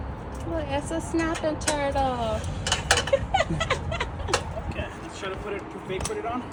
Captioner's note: laughs